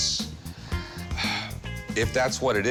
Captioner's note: sighs